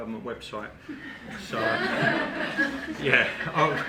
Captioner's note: group laughing